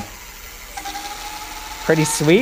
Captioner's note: motor whirring